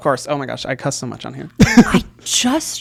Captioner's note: laughs